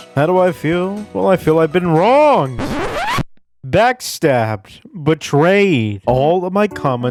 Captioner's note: record scratch